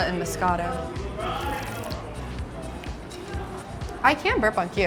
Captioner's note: patrons chattering